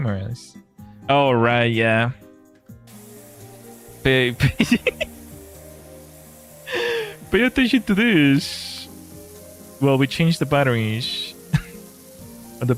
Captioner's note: laughter